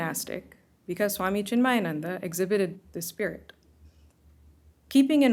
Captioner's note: hindi